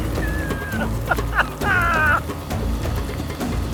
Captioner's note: maniacal laughter